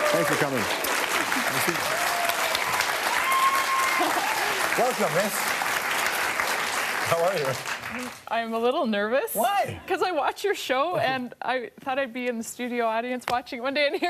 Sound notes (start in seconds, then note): 2.9 applause; 4.0 laughs